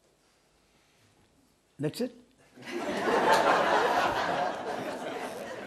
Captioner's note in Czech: smích